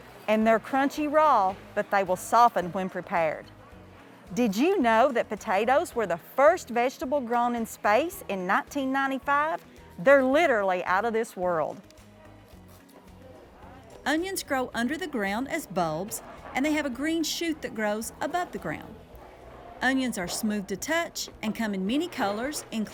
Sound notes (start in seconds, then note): 11.9 people chattering; 11.9 upbeat instrumental music